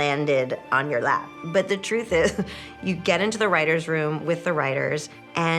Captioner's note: chuckles